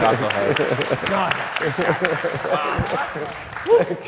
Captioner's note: audience applauds